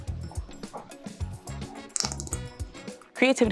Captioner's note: paint squirting from tube